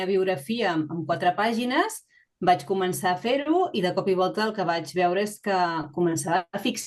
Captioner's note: continues speaking in Catalan